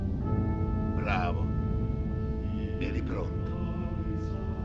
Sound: in Italian

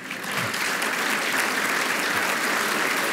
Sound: applause

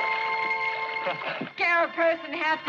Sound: Tony laughs

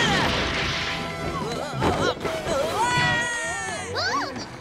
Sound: screaming; screaming

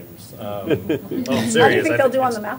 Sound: laughter

